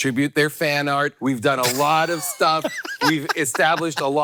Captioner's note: Hank laughing